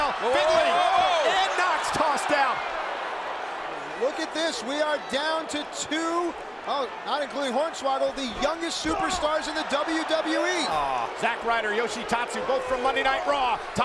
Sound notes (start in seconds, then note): 1.0 applause